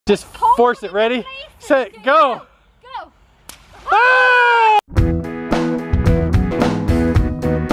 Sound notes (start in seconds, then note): 3.8 screams; 4.9 upbeat music